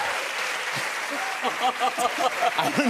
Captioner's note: laughter